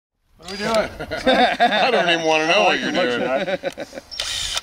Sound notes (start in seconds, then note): 0.6 laughing